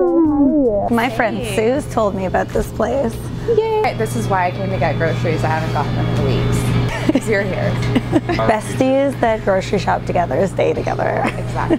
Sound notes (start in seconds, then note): 7.9 laughing